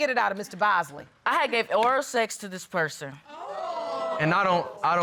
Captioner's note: audience exclaims